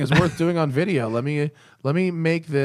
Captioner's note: laughter